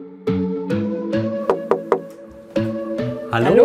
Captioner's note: knocking